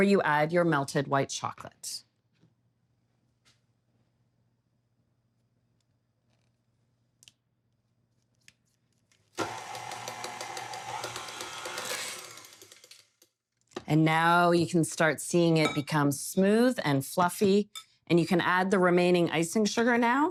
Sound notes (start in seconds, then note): 9.3 mixer whirring